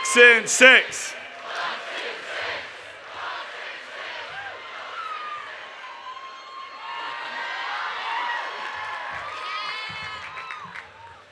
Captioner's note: cheering